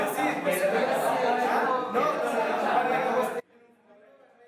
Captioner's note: classmates' laughter